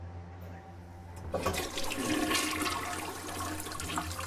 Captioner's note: toilet flush